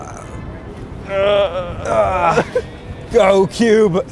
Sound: person grunting

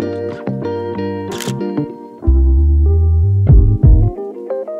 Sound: camera shutter clicks

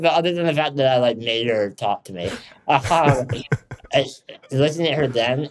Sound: chuckles

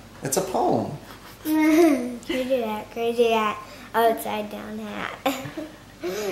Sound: laughs

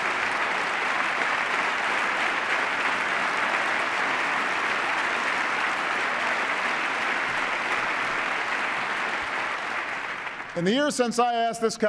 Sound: applause

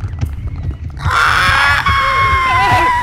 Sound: intense chase with screams and clicks

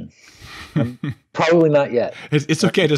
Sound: laughs

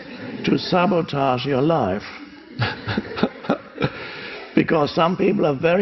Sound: laughs

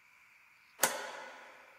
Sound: light switch flicks on

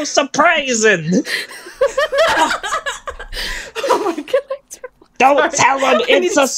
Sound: laughter

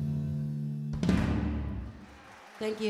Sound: audience cheering

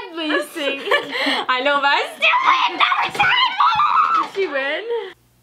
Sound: screams

